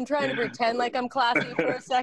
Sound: laughter

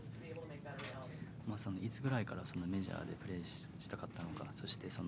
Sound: speaking Japanese

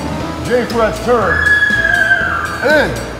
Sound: muffled shrieks

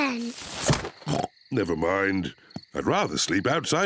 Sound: oinks

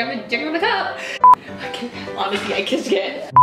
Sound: beeps

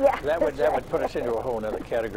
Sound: laughs

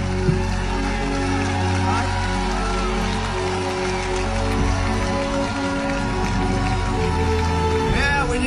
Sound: clapping

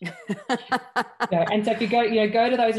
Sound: laughs

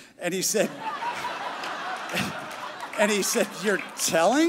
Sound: crowd laughing

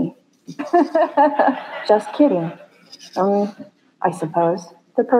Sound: Sophia Laughs

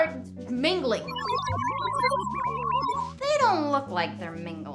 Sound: SFX: Sci-fi scanner noises

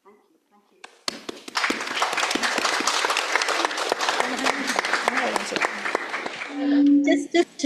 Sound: audience clapping

